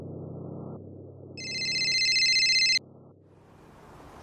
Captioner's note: phone ringing